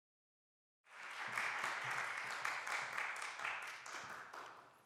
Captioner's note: applause